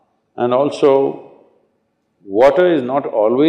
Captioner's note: none